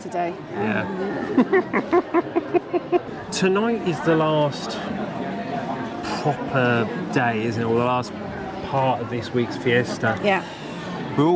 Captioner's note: laughter